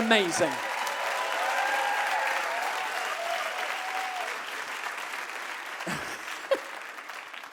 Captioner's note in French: le public acclame et applaudit